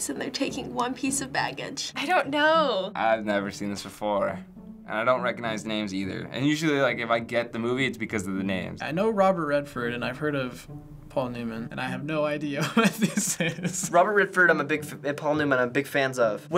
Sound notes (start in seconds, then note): 12.6 laughs